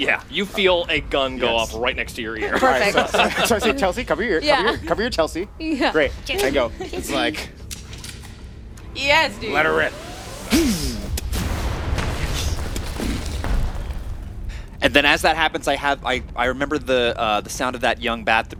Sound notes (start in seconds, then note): 8.8 cannon prepping; 14.7 explosions